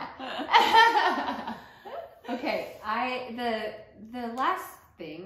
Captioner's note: laughter